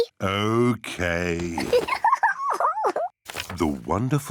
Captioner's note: giggles